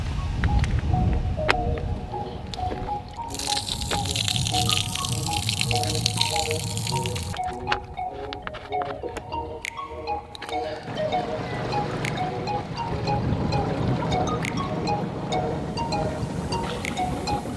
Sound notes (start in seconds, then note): 2.4 water splashing